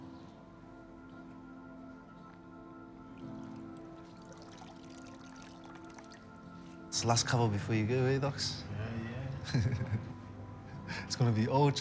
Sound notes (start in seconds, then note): 9.4 friend laughs; 11.6 both laugh